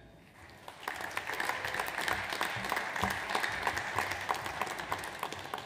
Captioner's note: audience applauds